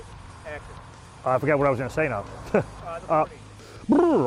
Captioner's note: chuckles